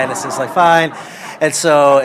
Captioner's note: laughter